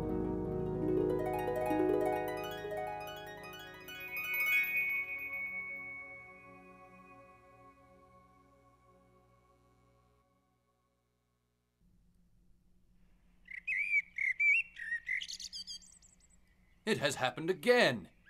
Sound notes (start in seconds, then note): 0.0 harp music playing; 4.1 chimes twinkling; 13.4 birds chirping